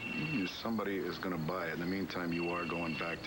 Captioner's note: phone rings